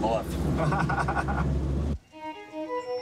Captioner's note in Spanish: niño riendo; microfonia